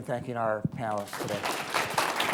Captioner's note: applause